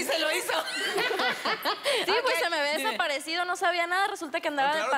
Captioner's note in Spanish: Risas